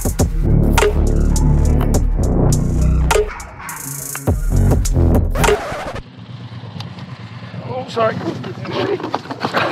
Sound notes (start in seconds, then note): 5.4 record scratch